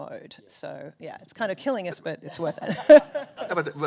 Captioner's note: laughs